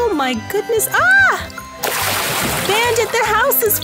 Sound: big water spash

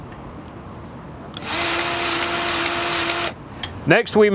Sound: grease gun revving

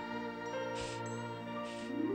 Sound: blowing

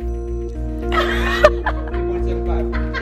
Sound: laughter

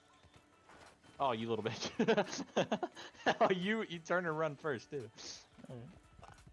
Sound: laughs

